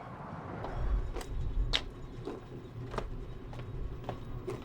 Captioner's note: footsteps tapping